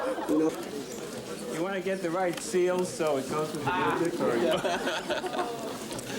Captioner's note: laughing; laughing